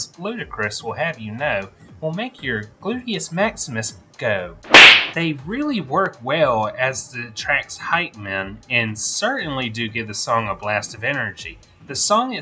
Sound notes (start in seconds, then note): 4.7 smack noise